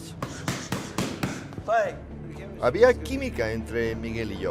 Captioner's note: sharp exhales